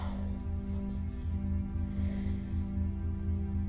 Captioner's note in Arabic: تتنهد